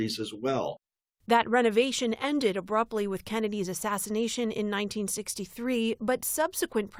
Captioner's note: voice-over